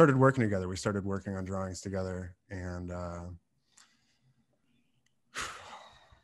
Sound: sighs

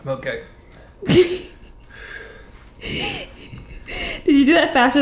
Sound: laughs

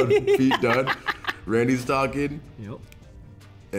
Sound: laugh

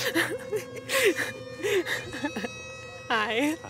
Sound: laughs

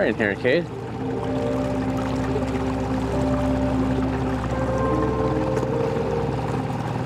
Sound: soft music continuing; motor rustling continuing

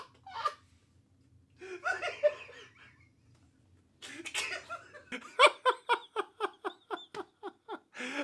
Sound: pure laughter, dog chewing; laughter continues

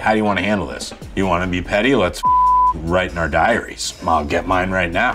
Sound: beeps

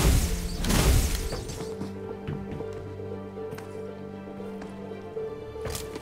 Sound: footsteps

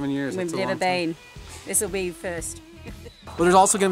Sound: laughs

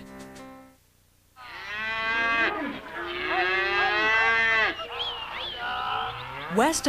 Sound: cows mooing

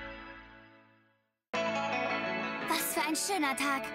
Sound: German

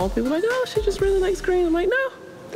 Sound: none

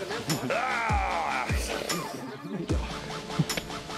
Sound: screams

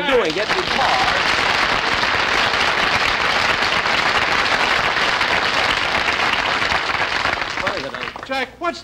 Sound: audience Applauding

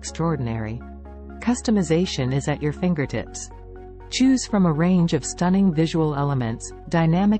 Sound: voiceover

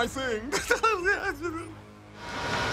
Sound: laughs

